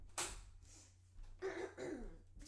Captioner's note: clearing throat